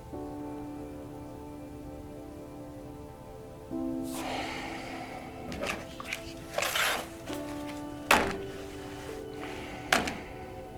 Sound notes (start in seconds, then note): 4.1 Joseph sighs; 8.1 folder thuds